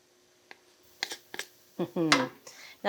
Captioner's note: spatula scraping